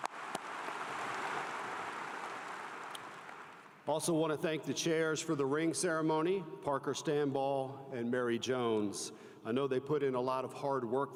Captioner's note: applause